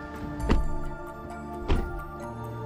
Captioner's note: doors banging; somber music